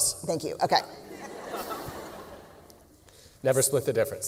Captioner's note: laughter